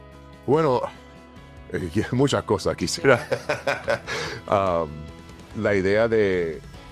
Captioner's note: laugh